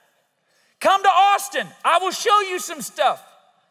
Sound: audience laughs

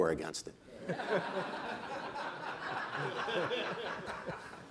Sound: group laughing

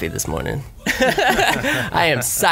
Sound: laughs

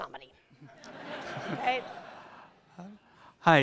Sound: laughter

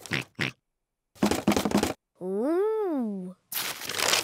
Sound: oinks; rattles

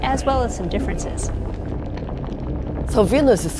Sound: lava sloshing

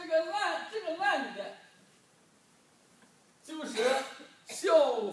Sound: speaking foreign language

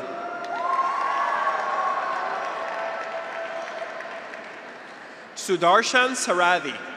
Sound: graduates cheer; audience applauds

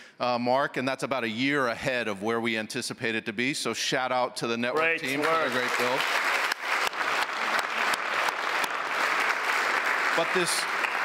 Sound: applause

